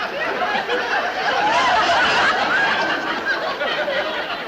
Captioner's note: people laughing continuously